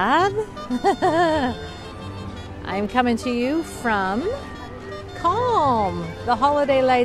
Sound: laughing

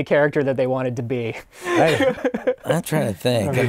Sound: laughs

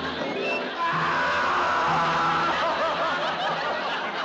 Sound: screams

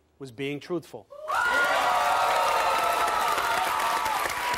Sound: audience applauding

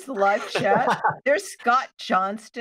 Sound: he laughs

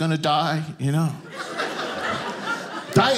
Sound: audience laughing

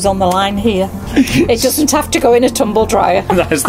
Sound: laughs

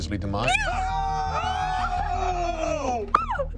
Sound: cheering

